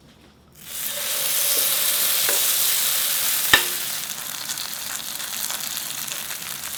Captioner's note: sizzling